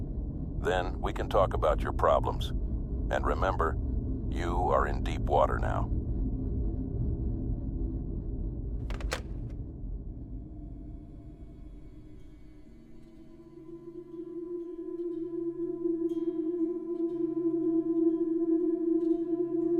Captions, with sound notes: Then we can talk about your problems. And remember, you are in deep water now. (hangs up receiver) (ominous music)